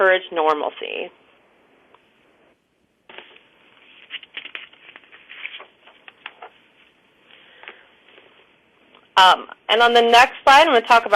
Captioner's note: pause